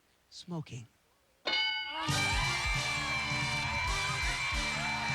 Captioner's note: cheers and applause